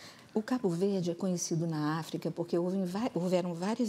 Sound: speaking portuguese

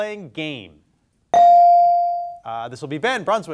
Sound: bell dings

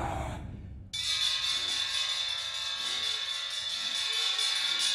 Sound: ominous sound effects; intense percussion music; screaming

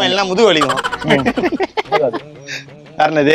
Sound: laughs

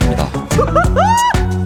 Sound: hahahahahaha

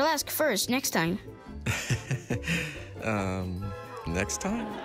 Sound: dad laughs nervously

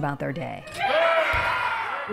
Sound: children scream excitedly

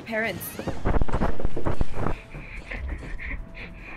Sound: Static

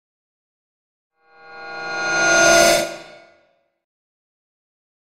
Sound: horror sliding transition

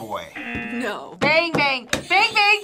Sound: buzzer; buzzer rings; buzzer rings

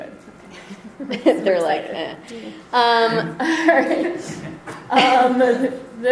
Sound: voiceover; mumbling and giggling

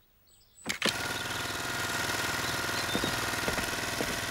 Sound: trimmer Whirring

